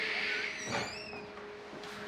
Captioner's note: door opens